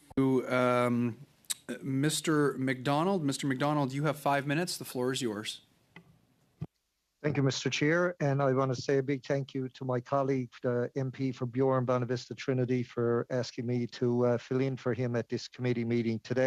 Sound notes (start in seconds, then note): 2.3 speaking French